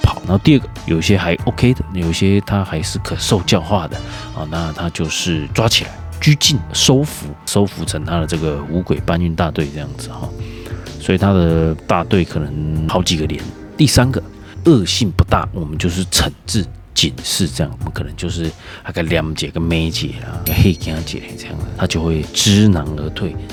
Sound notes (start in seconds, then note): 17.8 taiwanese Hokkien